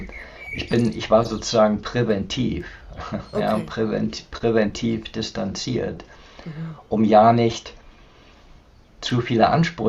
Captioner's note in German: räuspern